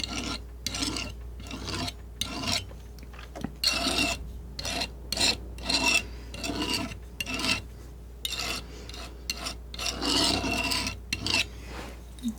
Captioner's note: scraping